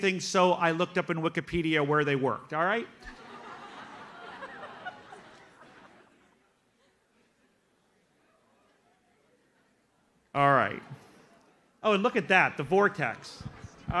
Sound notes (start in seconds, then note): 3.0 audience laughs